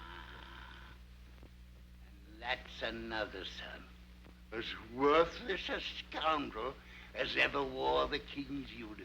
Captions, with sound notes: (yells) And that's another son. As worthless a scoundrel as ever wore the King's uniform.